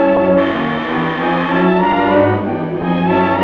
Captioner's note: buzz